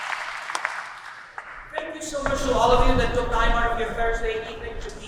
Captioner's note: applause